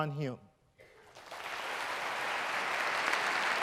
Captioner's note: applause